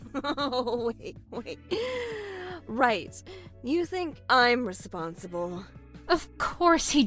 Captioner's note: laughs